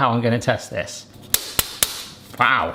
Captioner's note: heat diffuser banging